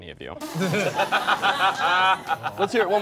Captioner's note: all laughing